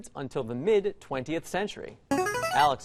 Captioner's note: player buzzer